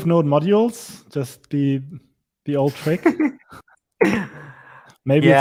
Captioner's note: laughs